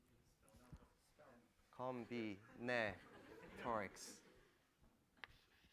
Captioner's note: laughter